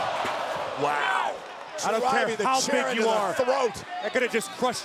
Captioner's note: overlapping chatter